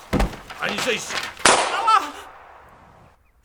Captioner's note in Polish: krzyk; strzał; krzyk